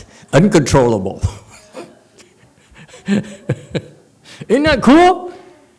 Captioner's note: laughs